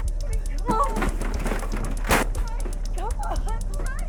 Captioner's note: banging on door